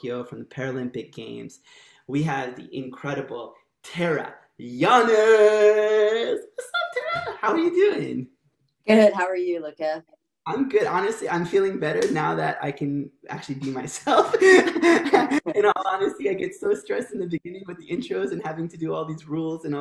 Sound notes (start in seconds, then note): 14.1 laughter